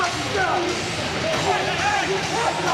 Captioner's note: crowd chatter